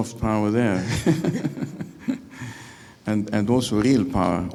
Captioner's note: member laughing